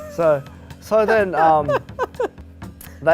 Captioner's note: laughter